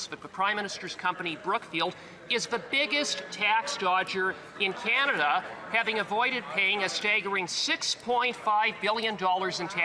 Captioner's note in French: voix de l'interprète